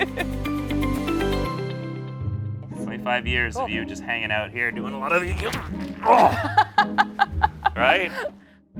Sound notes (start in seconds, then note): 4.9 grunts; 6.1 laughs